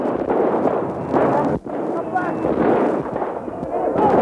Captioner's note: shooting sounds